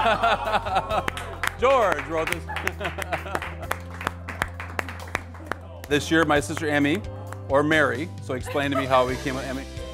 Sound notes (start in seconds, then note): 1.0 clapping; 3.8 laughing; 4.6 clapping